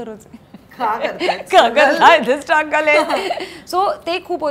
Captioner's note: Chuckles